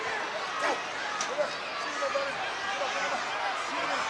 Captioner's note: crowd cheering